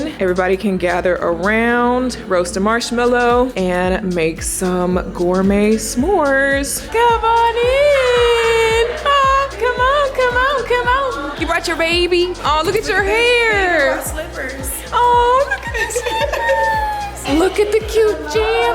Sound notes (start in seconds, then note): 15.3 guest chuckles